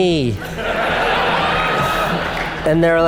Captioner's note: audience laughs